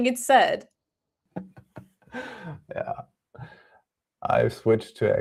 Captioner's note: laughs